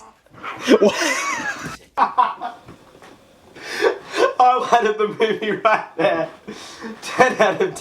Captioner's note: laughs hard